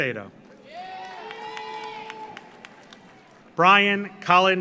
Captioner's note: audience applauds; audience cheers